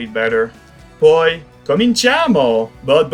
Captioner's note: Italian